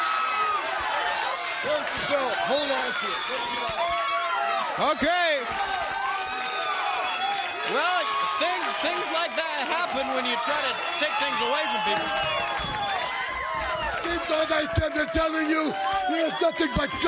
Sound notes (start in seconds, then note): 0.0 crowd cheering; 0.6 crowd chatter; 12.9 crowd chatter